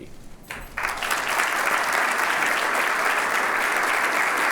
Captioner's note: applauding